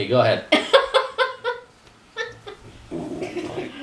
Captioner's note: laughter